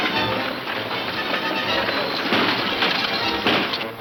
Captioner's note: guns firing